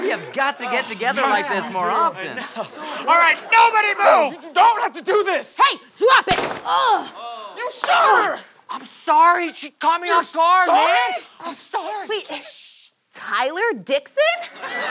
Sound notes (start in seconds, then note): 6.2 gunshot